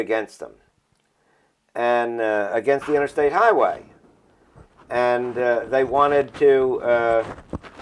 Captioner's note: noise of rubbing microphone